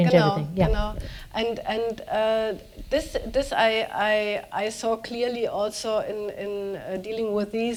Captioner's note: speaking german